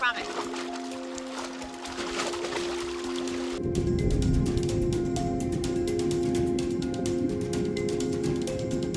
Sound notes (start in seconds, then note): 1.6 water splattering; 3.0 pensive music